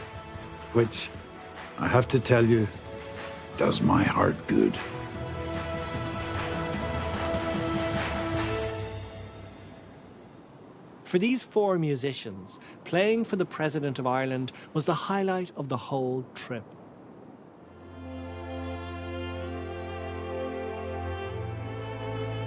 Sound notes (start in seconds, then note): 11.4 voice-over